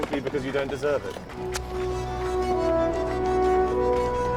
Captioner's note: click of lighter